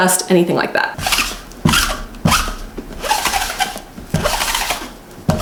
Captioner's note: roller squeaking